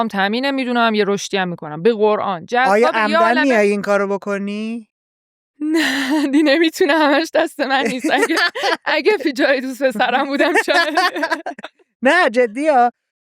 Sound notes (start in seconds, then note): 7.7 laughs